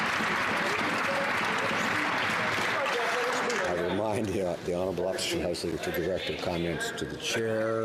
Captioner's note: some Applause